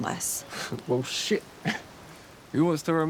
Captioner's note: laughs